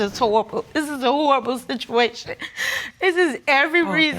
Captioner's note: sobbing